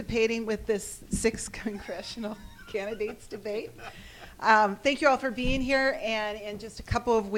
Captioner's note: laughs